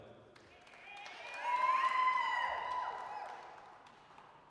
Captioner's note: applause, cheering